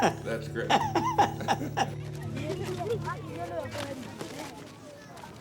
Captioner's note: chuckles